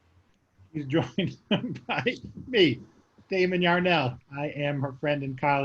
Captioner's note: laughing